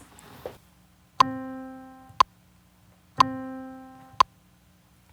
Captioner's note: metronome